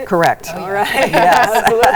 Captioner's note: laughs